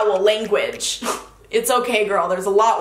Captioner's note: snorting